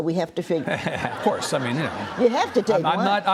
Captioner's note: audience laughs